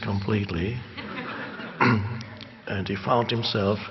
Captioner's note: audience laughing